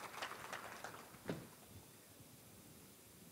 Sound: applause

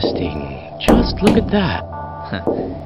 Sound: thunkthud; clatterclutter

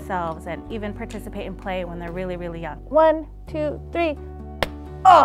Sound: pop

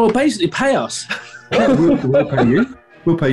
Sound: laughing

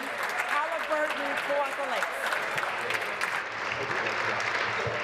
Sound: applause

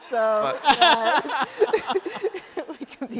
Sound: laughter

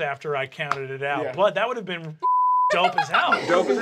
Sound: beep

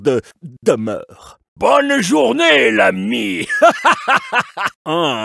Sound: imitating the Sniper; laughs

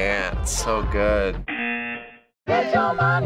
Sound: buzzer

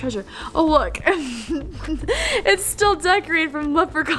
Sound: laughs

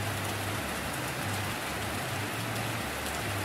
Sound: rain

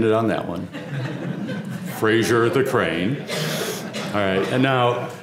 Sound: laugh

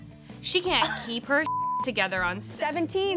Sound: beep

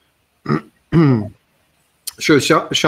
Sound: clears throat

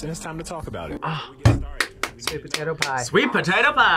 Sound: claps

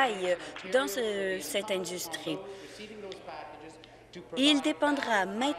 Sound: applause

